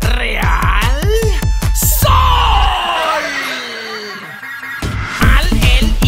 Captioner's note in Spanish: Risas